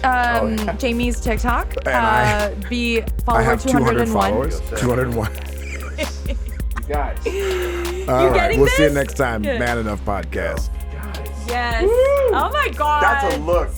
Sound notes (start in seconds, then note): 6.6 laughs; 8.5 chuckling